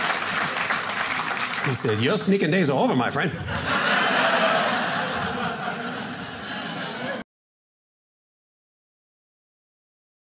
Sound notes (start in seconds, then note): 0.0 audience cheering; 3.2 audience laughing